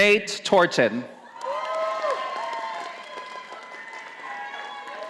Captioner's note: audience applauding